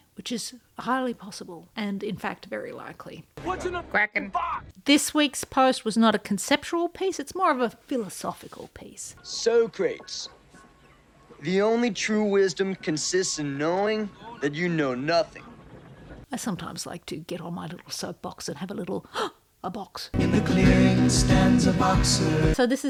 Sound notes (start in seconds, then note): 19.0 gasp; 20.2 singing